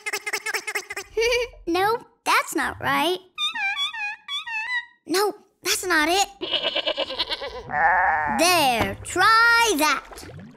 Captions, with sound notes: [giggling] No, that's not right. No, that's not it. [baaing] There. Try that.